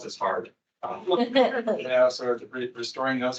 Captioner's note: attendees laughing